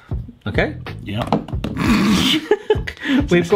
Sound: solid bap thuds; sniggers; laughs

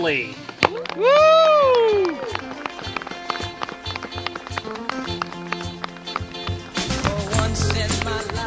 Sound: applause & Cheering

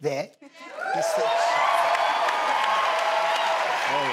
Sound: cheering

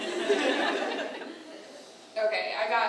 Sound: audience laughter

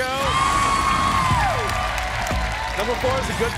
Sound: cheers and applause

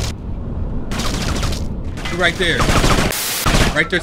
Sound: guns shooting

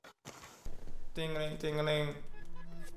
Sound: phone going off

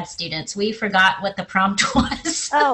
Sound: laughs

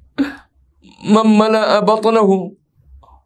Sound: arabic

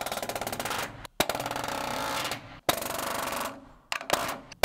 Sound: nails tapping loudly

